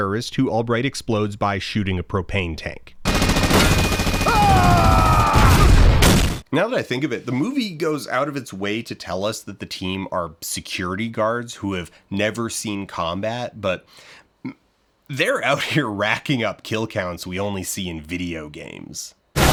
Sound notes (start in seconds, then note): 3.0 gunfire; 5.2 explosion